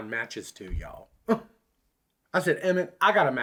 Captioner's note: scoffs